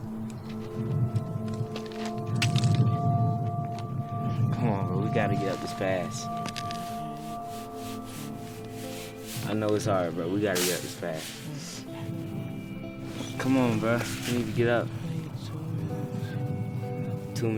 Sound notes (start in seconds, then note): 6.9 quietly mumbles